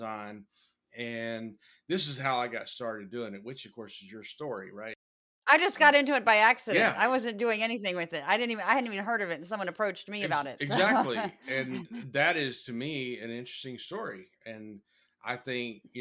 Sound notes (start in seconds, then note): 10.2 laugh